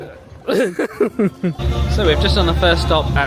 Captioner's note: laughing; upbeat music